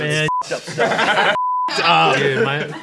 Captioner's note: beep